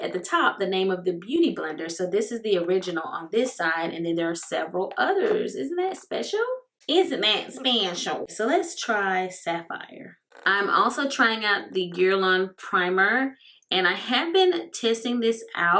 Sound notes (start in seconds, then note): 6.5 with comedy voice